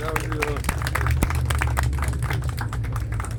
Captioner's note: applause